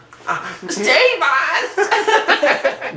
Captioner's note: tortured household appliance voice; both laughing